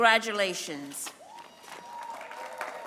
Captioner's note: applause